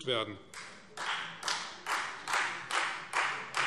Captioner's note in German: Beifall Freie Demokraten